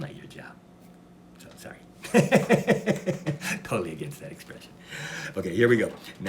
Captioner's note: laughs